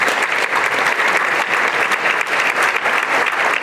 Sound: applause

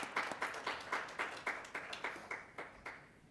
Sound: applause

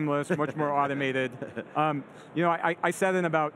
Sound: laughing

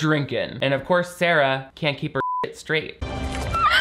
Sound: beep; girls laughing

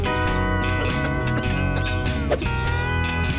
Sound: howl; coughing

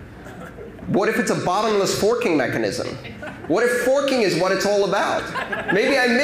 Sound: laughter

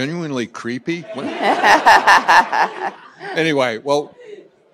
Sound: laughter

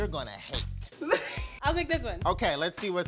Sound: laughing

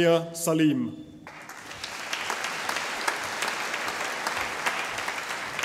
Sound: audience applauding

